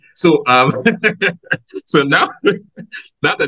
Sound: both laugh

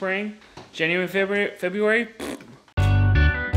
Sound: blowing raspberry; upbeat music

